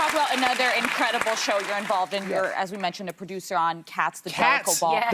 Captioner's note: applause